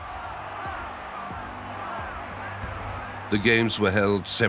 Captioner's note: people cheer and shout